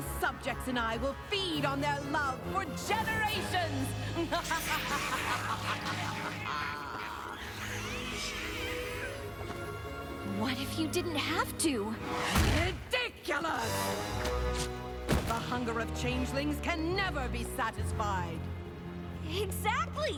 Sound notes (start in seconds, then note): 6.4 laughs evilly